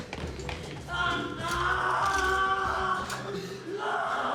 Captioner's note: Palle screams